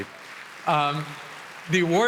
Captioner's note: applause